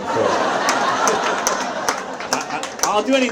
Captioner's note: audience laughs